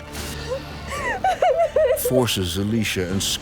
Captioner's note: sobbing